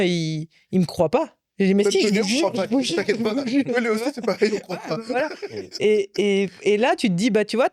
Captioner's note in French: rires